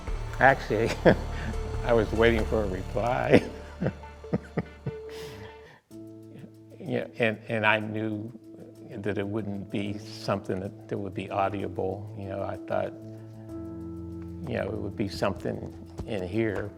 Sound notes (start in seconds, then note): 3.0 laughs